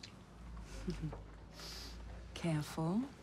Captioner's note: chuckles